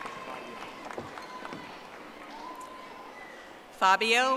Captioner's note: audience applauding